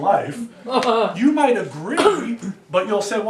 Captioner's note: student laughs